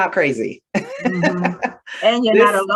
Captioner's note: laughter